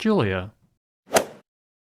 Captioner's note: swoosh